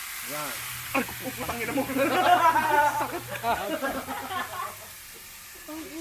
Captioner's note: laughter